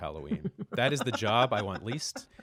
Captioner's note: laughter